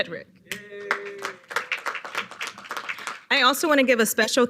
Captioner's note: audience applauding